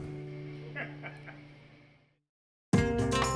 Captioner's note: laughter; dynamic music